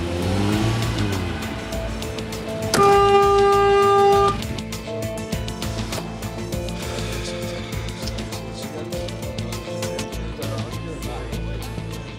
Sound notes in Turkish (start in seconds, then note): 2.5 Korna çalıyor; 4.8 Gerilim müziği